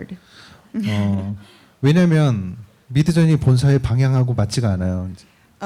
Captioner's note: speaking korean